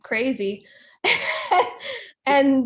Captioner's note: laughing